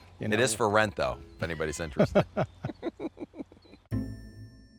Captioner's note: Lee and Fred chuckling